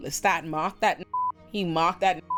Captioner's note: beep